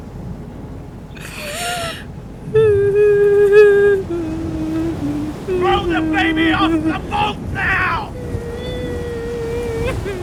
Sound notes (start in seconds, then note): 2.3 weeping while humming